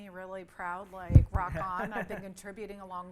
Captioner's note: laughs